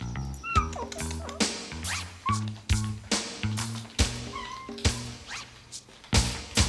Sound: Duffy whimpering; upbeat music

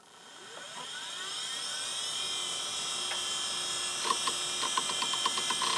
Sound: buzzing

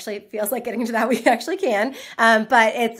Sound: laughs

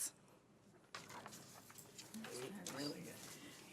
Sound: group chatter

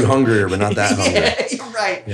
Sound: laughs

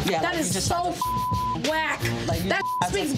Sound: beep

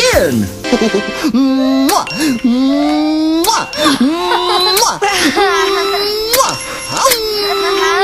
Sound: kisses; reverse kisses

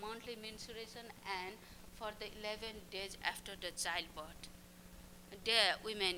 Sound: non-english speech

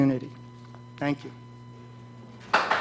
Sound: applause

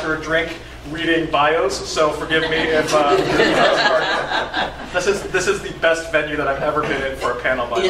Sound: laughter

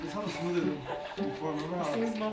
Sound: voice trails off; girl laughing

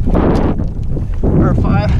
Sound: wind blowing loudly

